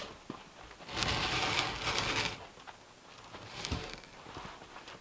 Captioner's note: log scraping